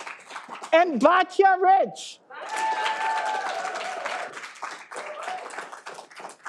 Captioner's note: all applauding